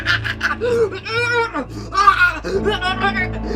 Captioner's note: Betsy choking